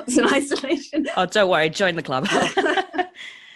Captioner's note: laughs; laughs